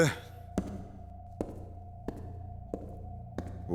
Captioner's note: footsteps